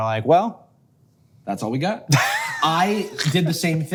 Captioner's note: Hank chuckles